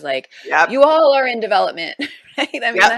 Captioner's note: chuckles